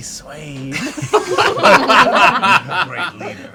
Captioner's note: laughter